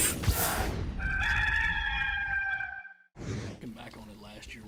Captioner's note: rooster crows